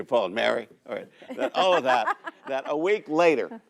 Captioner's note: laughs